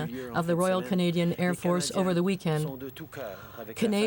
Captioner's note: speaking French